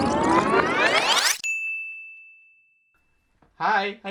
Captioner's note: bell dinging